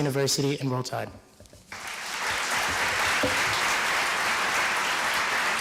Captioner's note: applause